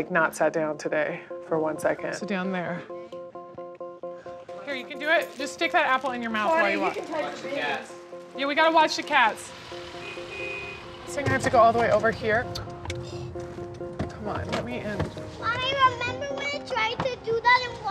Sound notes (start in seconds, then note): 8.3 honking; 12.9 sighs